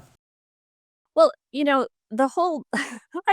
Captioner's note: laughs